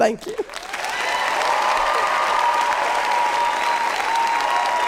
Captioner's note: audience applauding